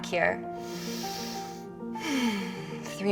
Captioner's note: deep breathing